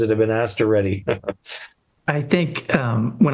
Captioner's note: laughs happily